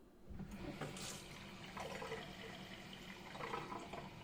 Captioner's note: water sloshing